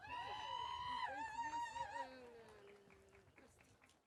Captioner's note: audience cheering